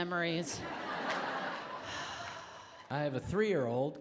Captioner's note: audience laughs